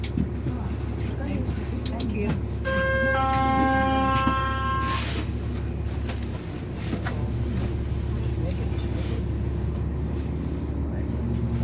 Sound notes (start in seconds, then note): 0.7 99 B-Line Chime